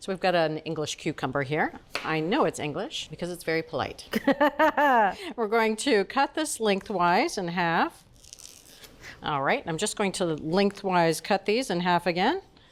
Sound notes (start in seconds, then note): 4.1 Julia laughs